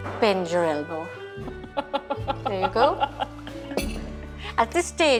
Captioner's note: laughs